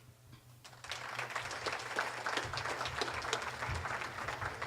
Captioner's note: audience applauding